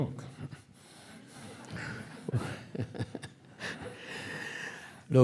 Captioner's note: audience laughing